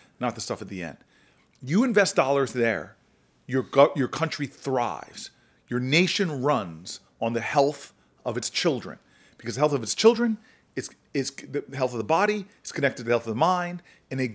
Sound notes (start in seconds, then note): none